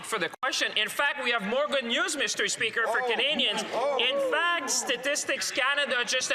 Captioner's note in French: voix de l'interprète